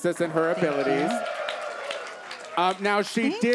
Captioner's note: audience cheers